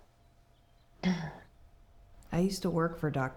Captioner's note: Anne clears throat